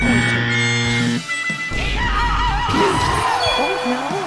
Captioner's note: screaming